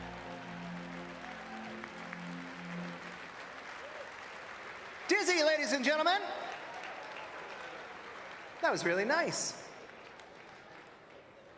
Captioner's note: applause